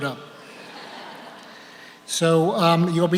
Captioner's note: audience laughs